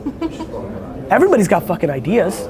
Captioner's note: laughter